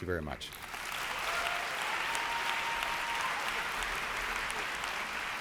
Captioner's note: audience applauds